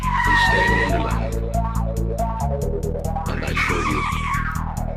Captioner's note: breaks squealing